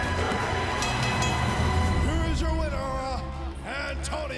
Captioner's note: crowd cheering; bell ringing